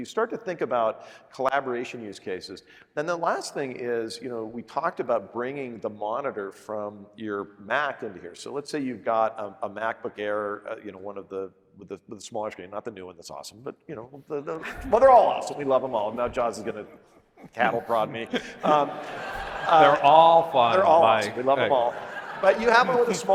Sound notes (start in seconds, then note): 18.6 audience laughing